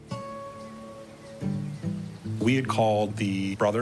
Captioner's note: birds chirping; dramatic music